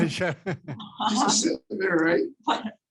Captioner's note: laughing